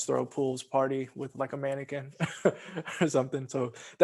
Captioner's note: laughs